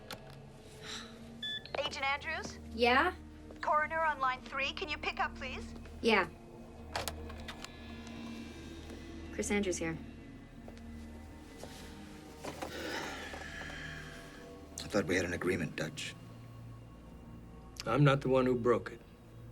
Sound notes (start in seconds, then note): 0.2 sighs; 12.5 sighs